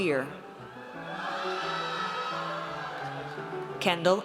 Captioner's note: audience cheers